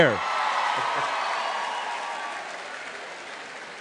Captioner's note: applause